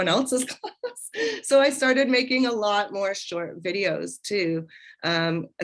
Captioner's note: laughter